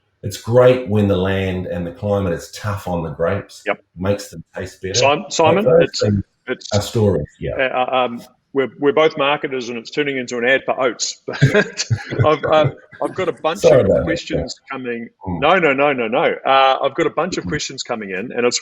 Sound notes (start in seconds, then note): 11.3 laughing